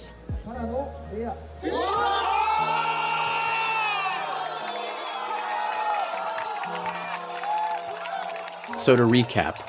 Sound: cheering

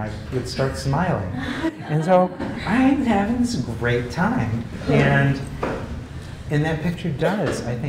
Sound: laugh

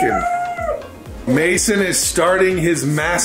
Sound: in high pitch

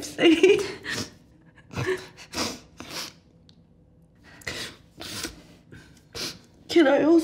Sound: both sniffle and giggle

